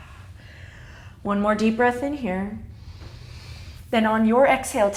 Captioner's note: exhaling; deep inhale